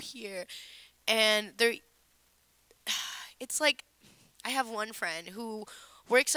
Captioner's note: sighing